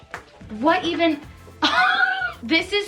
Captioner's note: laughs